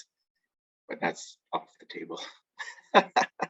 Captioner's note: laughs